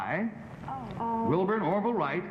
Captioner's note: panelists murmuring